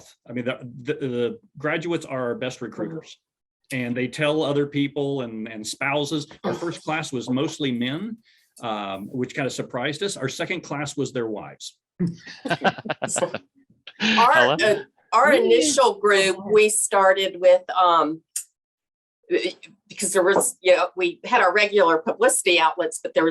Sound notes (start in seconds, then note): 12.1 laughs